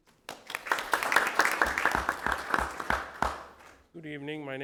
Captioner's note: audience applauding